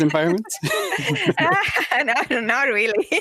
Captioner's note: laughter